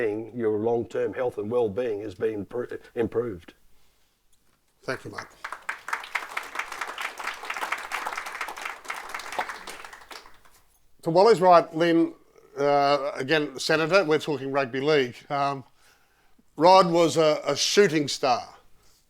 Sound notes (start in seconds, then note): 5.0 audience applauding